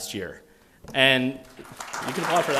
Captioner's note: applause